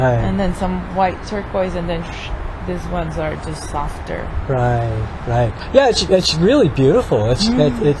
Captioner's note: shoosh